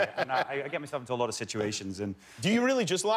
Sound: laughter

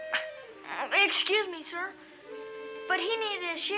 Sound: stammers; in normal voice

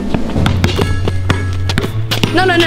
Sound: ball dribbling

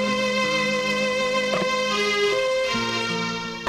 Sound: receiver hang up

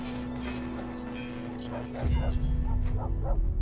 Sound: sfx: dogs barking in the distance

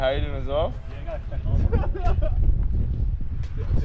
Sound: laughs

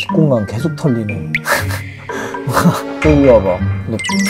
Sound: hahaha

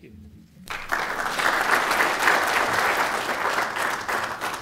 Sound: applause

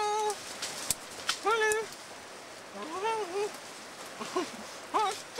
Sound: talking in animal noises

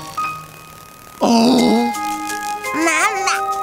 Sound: gasping

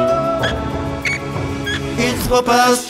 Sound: heavenly yodel of peace & justice; melodious chirping of musical rat

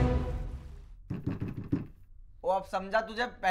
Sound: knocking

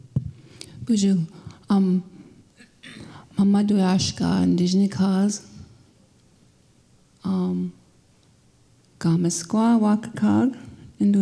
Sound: speaking Ojibwe

